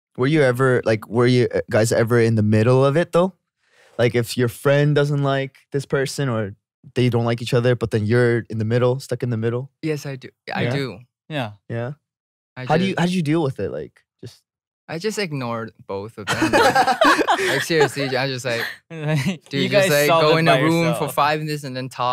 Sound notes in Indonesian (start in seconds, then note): 16.3 tertawa